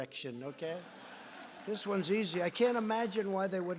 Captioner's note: laughter